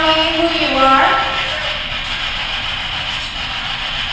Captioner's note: static buzzing